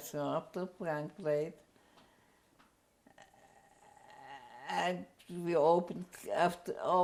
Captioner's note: pauses for 3 seconds